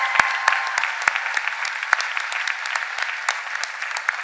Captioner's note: cheers and applause